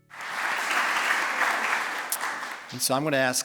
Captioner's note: applause